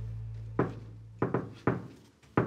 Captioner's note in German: Klopfen